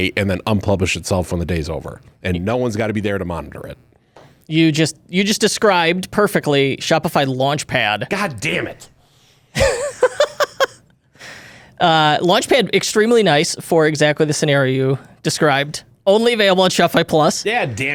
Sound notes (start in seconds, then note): 9.5 laughs